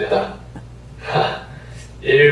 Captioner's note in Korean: 웃음